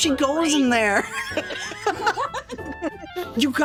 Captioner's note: all Laughing